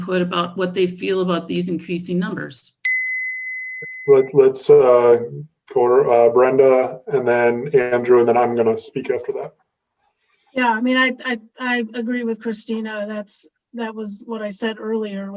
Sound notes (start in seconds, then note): 2.8 dinging